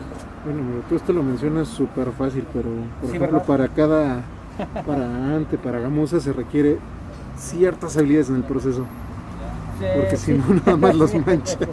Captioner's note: laughs